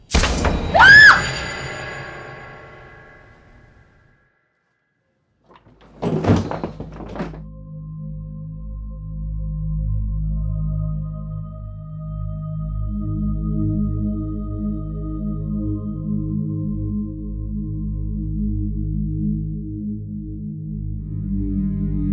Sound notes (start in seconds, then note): 0.1 startling music; 0.7 Shelby screams; 5.5 door thuds; 9.8 eerie music; 18.5 eerie music continues